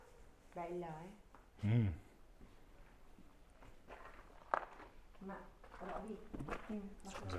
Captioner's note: speaking in foreign language